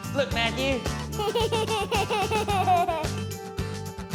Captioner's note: giggling